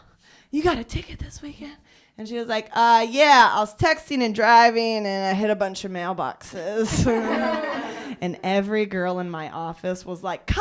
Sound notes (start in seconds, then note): 6.9 laughter